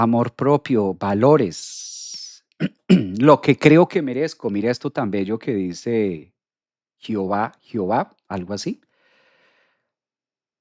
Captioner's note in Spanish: carraspeo